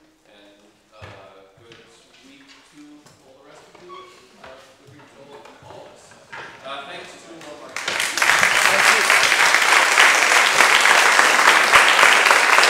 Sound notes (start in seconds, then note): 7.3 speaker muffled by applause